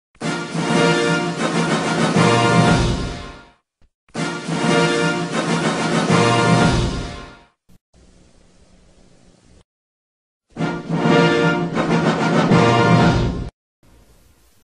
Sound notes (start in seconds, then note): 7.8 silence; 10.6 rousing fanfare plays